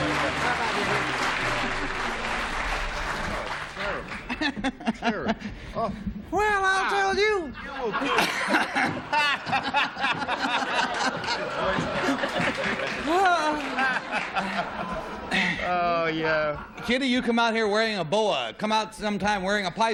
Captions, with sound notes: - Thank you, Craig, so much. Bye-bye to you. Terrible. - [laughs] - Terrible. Well, I'll tell you-- [laughter] Hah! Oh, yeah. Kitty, you come out here wearing a boa.